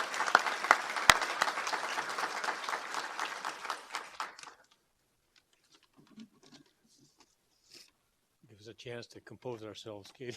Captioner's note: applause